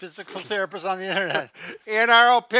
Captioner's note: both chuckling